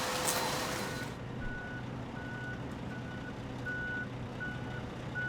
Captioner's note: truck beeps